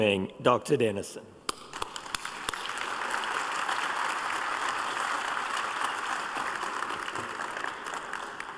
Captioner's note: applause